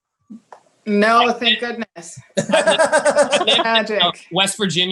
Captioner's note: laughs